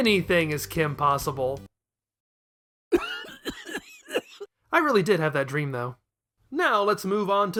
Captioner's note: cough